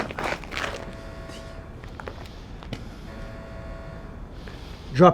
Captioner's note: alarm blaring